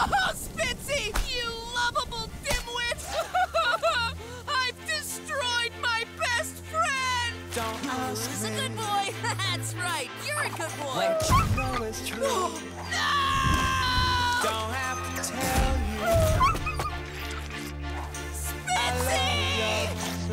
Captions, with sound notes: Spitsy, you lovable dimwit! [crying] I've destroyed my best friend. Who's a good boy? That's right. You're a good boy. [gasping] No! [whimpering] Spitsy!